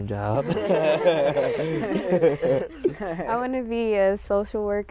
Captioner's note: laughter